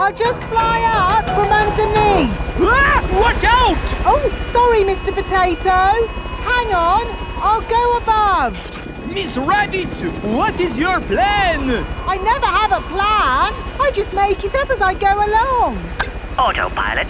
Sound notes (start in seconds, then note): 3.0 screams